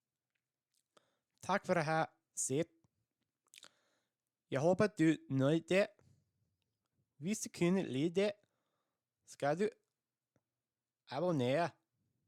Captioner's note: danish